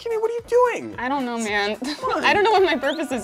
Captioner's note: laughs